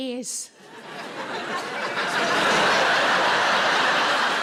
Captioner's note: audience laughs